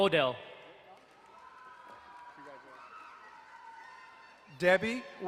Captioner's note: crowd cheering and applauding